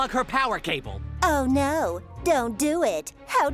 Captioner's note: sarcastically